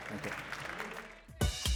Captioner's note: applause